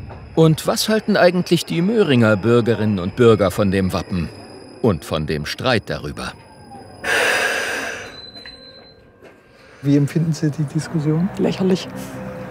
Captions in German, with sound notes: Und was halten eigentlich die Möhringer Bürgerinnen und Bürger von dem Wappen und von dem Streit darüber? (Zug quietscht laut.) Wie empfinden Sie die Diskussion? - Lächerlich.